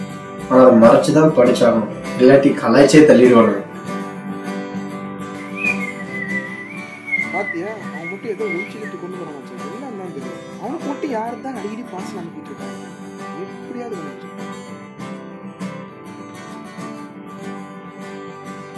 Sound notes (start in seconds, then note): 5.4 whistling